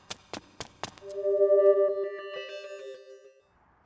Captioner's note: electronic fade-out